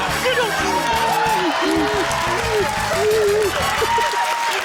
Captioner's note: rapturous cheering